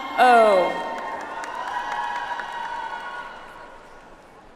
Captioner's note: audience applauds